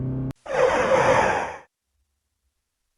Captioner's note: tires squealing